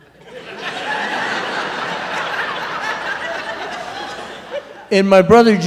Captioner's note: laughter